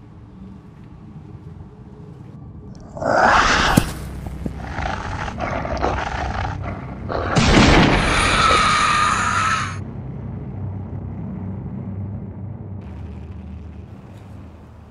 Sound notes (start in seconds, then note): 2.8 loud roaring; 5.0 snarling, growling; 7.1 gunshots; 8.9 screeching